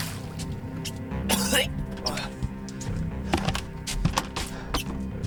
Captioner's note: liquid splashes; Spencer gags